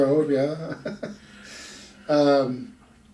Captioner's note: laughs